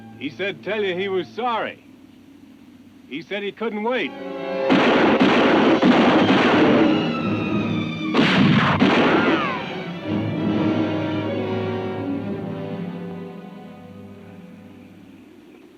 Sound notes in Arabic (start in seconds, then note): 4.6 صوت البنادق; 9.9 موسيقى درامية